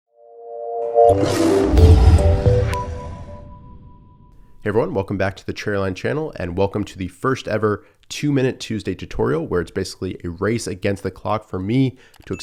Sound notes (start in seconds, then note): 0.1 calm music; 1.0 lion roars